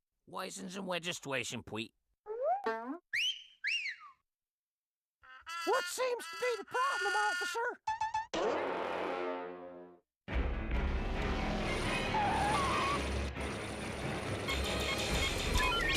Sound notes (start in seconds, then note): 3.1 Elmer whistling; 11.6 tires screeching